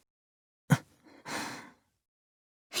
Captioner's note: silence